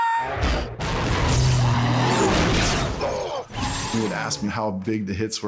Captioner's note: mechanical crunching